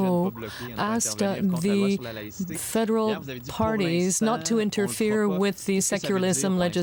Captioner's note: speaking french